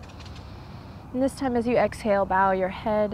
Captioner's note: takes deep breath